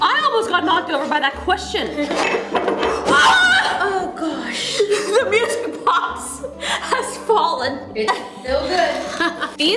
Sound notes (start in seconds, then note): 3.1 girls scream